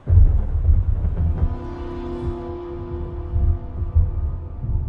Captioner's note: thunder booms, eerie music